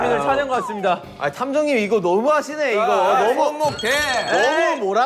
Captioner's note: frustrated